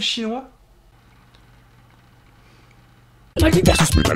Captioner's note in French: silence